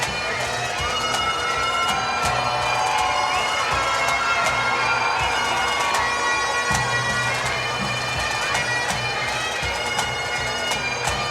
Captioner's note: cheers and Applause